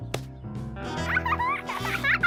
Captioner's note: giggles